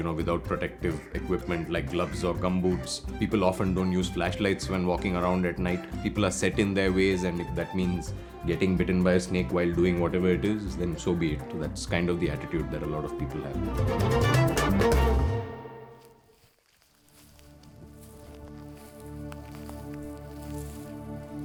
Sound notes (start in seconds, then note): 16.5 grass crunching; 18.9 calm music